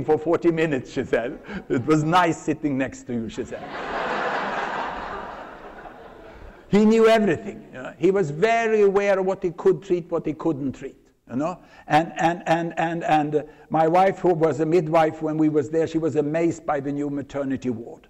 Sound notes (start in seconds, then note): 3.5 laughter